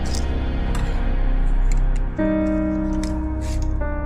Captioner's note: creaking as screw is turned